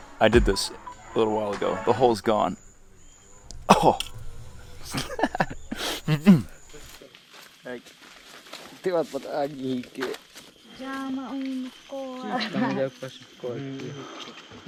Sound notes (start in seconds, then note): 4.8 laughing; 9.1 speaking in foreign language